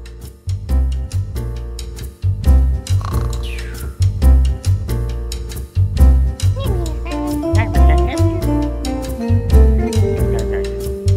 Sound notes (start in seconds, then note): 6.4 rocks speaking gibberish to each other